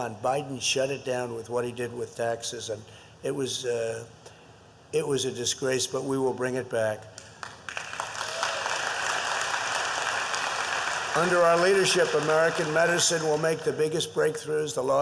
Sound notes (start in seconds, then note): 7.1 applause